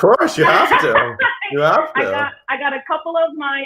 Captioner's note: laughs